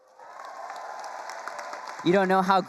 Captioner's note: attendees cheering and applauding